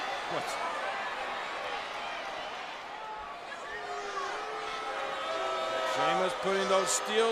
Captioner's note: applause